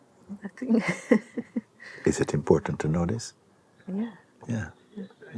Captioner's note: laughs